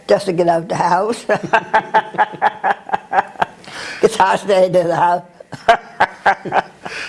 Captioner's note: laugh